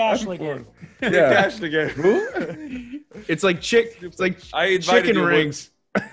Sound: laugh; laugh

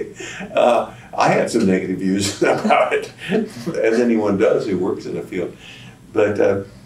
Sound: laughter

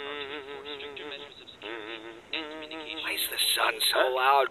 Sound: humming; humming

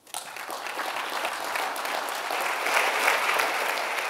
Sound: audience applauds

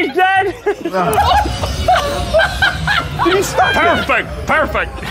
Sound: Sidemen laughing

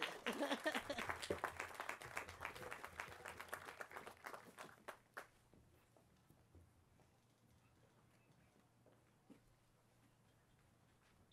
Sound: applause

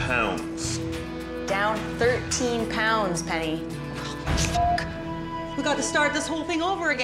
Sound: beeps

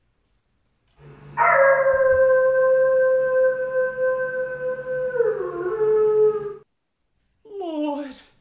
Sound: a howl

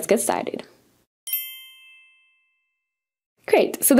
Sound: bells chiming

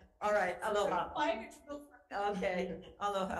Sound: murmuring

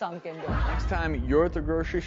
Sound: audience laughs

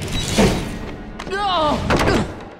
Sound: grunting

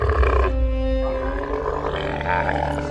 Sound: camel noises

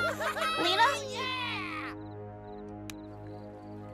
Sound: boys cheering

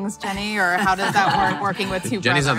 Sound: laughing

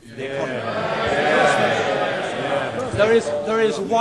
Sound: people exclaiming

